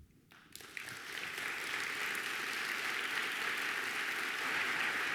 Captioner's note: audience applauding